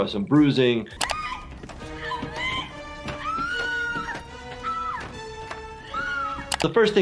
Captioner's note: screams; screaming